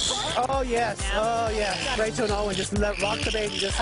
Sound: pigs squealing

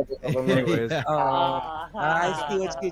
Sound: groaned laughs

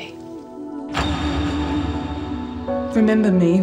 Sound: doors clang

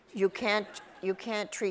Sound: audience laughs

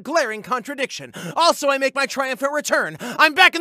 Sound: gasp; gasp

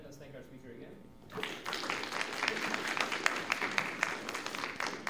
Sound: applause

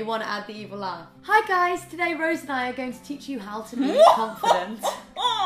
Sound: evil laugh

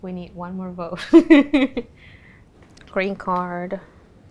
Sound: laughs

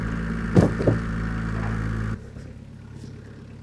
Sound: wood clatters

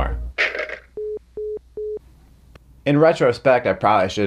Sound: phone beeps

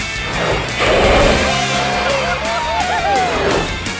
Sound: cheering

